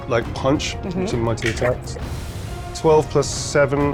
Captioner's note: dice rattling